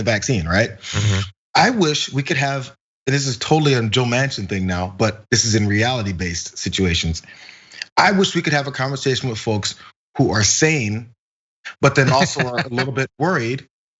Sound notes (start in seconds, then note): 11.8 laugh